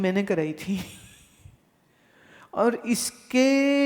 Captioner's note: Guruji laughs